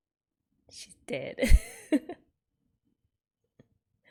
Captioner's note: laughs